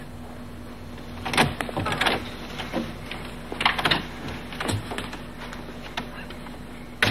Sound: door opens

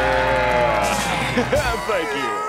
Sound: laughs; Patrick crying

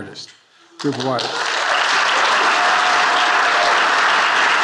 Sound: attendees applauding

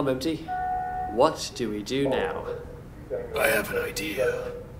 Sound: guards calling for backup

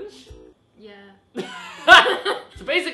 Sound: laughs

